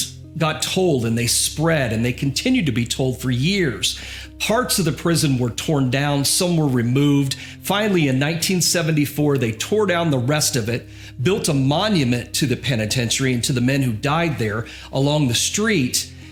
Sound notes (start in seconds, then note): none